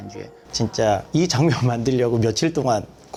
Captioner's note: speaking in Korean